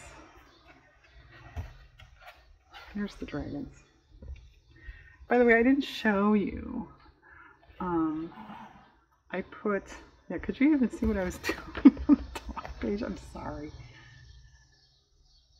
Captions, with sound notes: there's the dragons by the way i didn't show you, i put-- yeah could you even see what i was doing (laughs) on the other page, i'm sorry